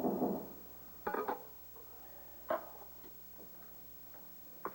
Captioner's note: knock on door